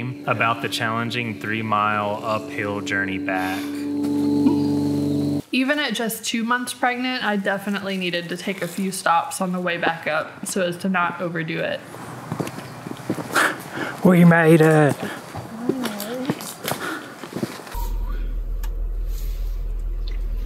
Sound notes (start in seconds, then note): 4.4 chuckles; 13.1 chuckles